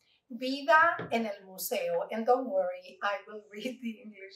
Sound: Spanish

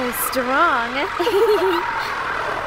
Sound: giggles

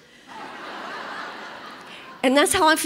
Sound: congregation laughs

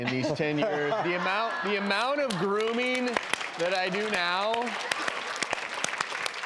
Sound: audience applause

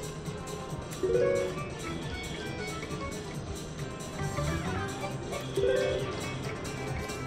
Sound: machine beeps

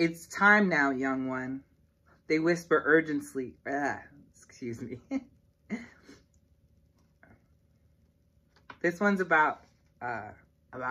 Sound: chuckle

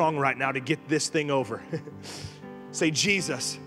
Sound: laughing

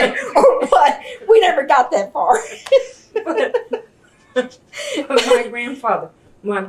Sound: laughter

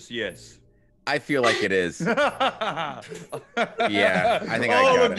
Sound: laugh

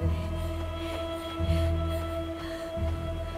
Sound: Googly breathing heavily

